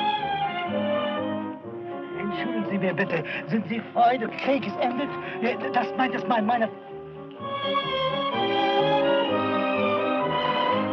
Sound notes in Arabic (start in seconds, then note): 2.2 الصوت المنطوق باللغة الألمانية